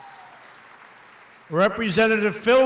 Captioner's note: applause